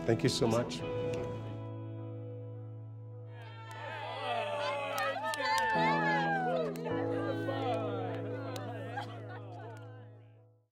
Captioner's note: cheers